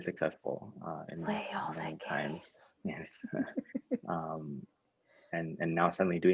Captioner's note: laughs